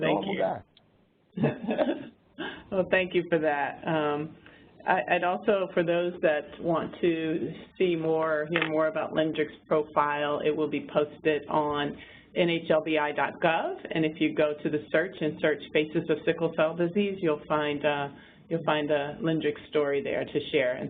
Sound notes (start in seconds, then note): 1.4 laughs